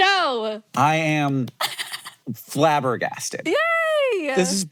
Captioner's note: Maya chuckles